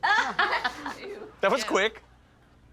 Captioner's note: laughs